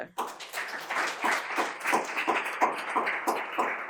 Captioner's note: audience applaud